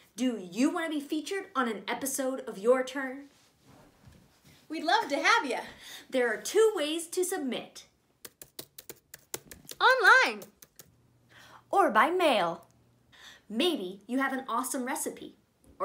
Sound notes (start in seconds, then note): 8.4 keyboard clicks